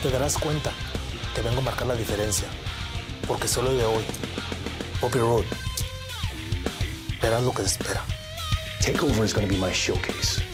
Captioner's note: speaking spanish